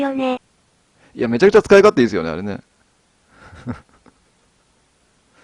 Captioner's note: laughs